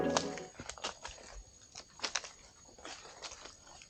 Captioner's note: feet crunching on earth